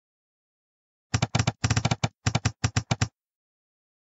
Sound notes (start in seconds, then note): 1.1 sound of typewriter